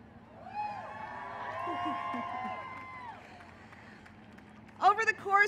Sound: cheering and applause

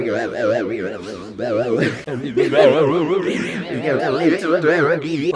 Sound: distorted, warbling voices

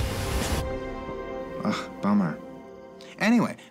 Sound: sighs

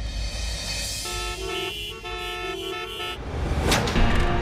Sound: car horn honking

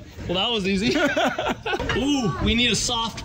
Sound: person laughing

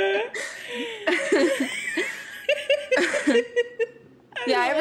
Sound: wheezing

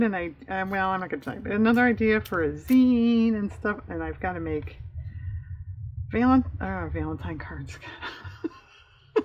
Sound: laughs

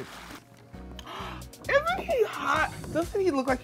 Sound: gasp

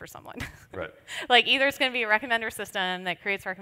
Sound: laughs

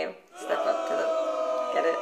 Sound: crowd booing

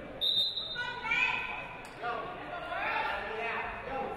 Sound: referee blows whistle

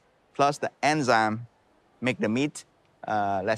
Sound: none

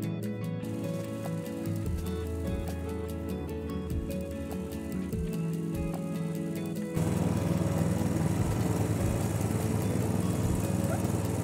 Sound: snowblower rumbling

